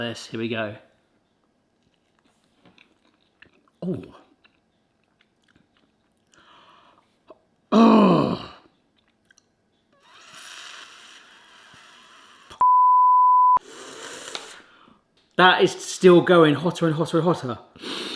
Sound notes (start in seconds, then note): 1.8 munching; 7.6 wincing; 10.1 straining; 10.1 exhaling; 12.6 beeps; 13.6 exhaling; 13.7 straining; 17.8 breathing deeply